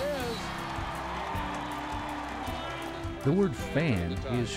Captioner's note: crowd cheers; whistle